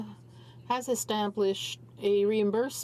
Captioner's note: speaking in french